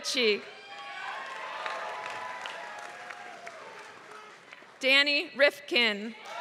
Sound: applause

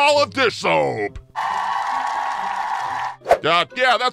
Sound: ovations

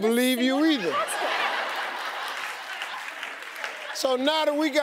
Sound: audience laughing

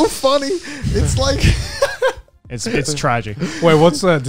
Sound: laughs

